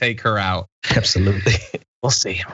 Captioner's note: laugh